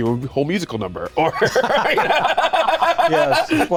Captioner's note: laughing